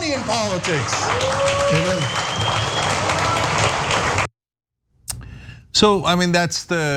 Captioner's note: applause